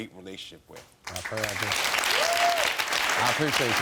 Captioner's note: audience clapping